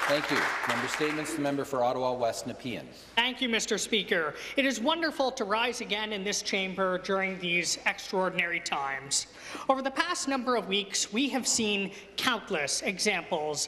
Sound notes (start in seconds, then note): 0.0 applause